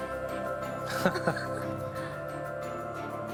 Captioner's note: laughing